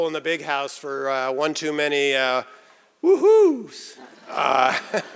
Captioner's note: laughter